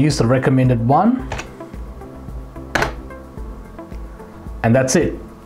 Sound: keyboard typing sound

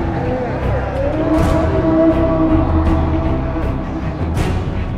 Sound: people cheering

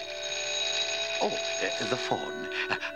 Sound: phone ringing

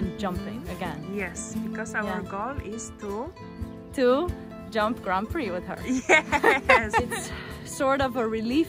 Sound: happy laughter

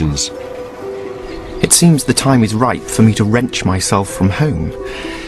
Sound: birds tweeting and gently music

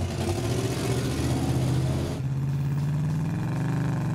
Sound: motor revving

